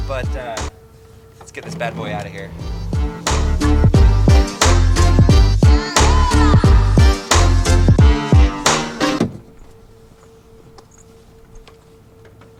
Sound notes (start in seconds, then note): 2.6 bouncy music; 8.4 thudding